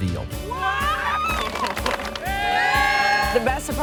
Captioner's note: crowd applauds